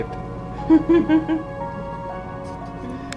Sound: laughs; lighthearted music

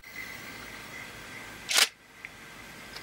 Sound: camera shutter

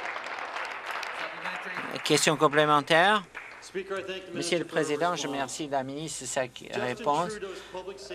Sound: applause

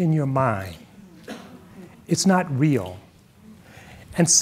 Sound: audience murmuring

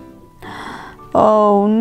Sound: gasps

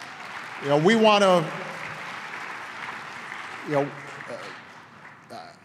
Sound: applause

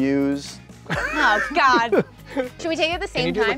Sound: host laughs

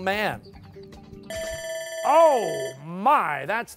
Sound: bell dings

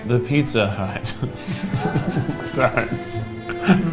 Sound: both laugh

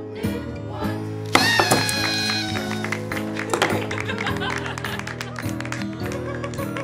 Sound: party horn, laughter, applause

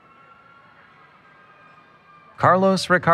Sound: cheering

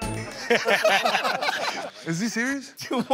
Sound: laughter

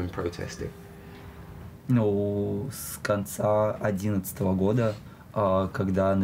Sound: speaking in foreign language

